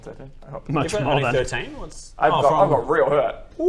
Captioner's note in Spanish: risas